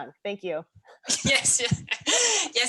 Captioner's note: laughs